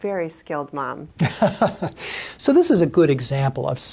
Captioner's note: laughs